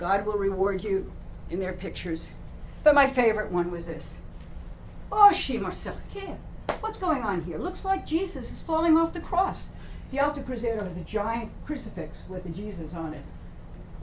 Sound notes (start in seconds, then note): 5.4 non-english speech